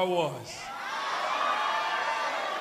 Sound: cheering and applause

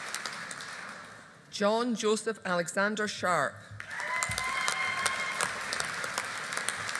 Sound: audience applauding

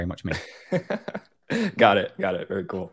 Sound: laughs

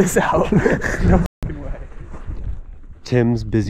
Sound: men chuckling

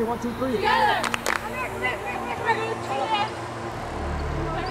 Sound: cheering

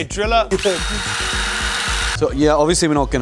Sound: drill whizzing

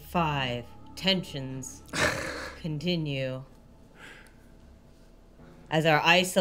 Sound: chuckling

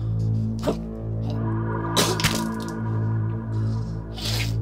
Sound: creature spits

